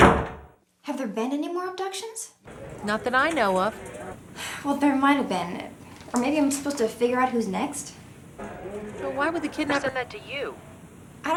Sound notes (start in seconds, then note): 0.0 door bangs; 8.3 group chattering